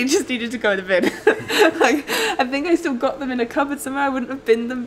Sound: laughs

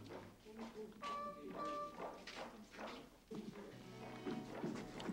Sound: playful music; Muppets chattering

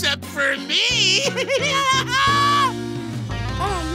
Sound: evil laugh

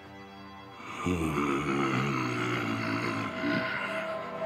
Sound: growling

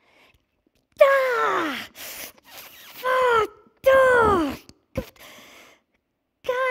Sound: she yelps in pain

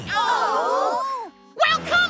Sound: machines Groan

